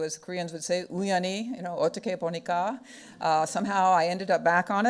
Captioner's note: speaking foreign language